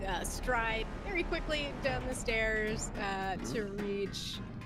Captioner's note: none